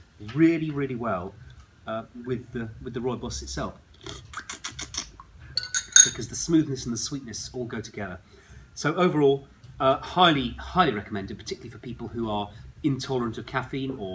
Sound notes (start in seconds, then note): 4.0 slurping